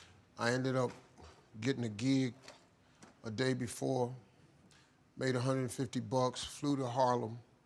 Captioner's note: none